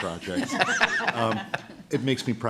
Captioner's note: laughter